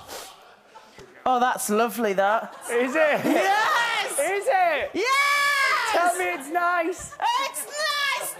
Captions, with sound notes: Oh that's lovely, that. Is it? Yes! Is it? [SHOUTING] YES! Tell me it’s nice. [SHOUTING] It’s nice!